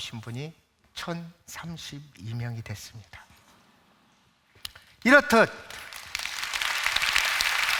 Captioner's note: applause